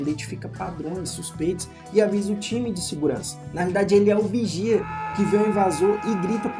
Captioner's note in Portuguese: grito